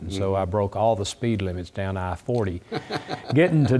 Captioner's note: laugh